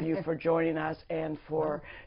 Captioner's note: laughter